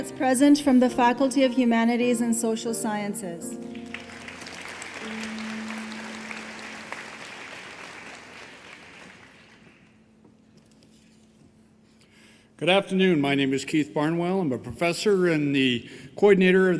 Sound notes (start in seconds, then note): 5.4 applause